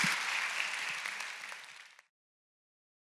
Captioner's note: applause